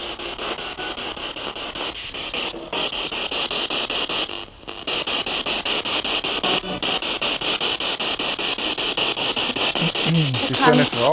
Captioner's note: sound of the Spirit Box in the background